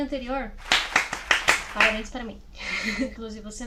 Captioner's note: claps